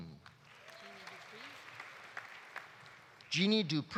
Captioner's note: audience applauding